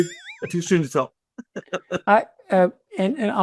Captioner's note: laughing